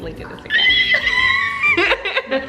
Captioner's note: high pitched screaming; laughing